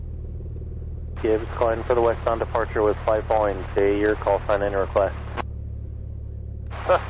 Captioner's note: aircraft